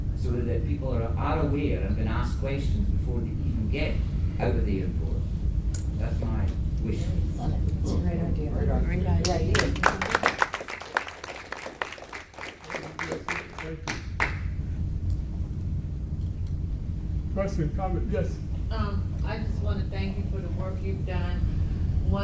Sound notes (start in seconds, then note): 9.2 audience claps